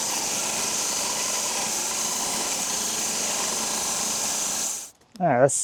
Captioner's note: saw buzzing continues